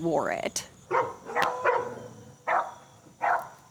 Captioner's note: dog barking